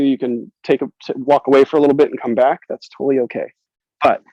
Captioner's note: none